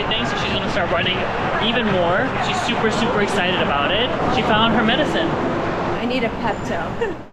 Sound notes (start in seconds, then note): 6.9 laughs